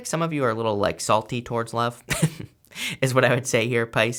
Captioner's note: chuckles